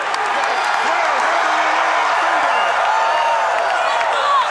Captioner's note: crowd cheering